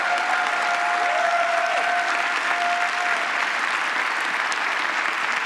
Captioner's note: applause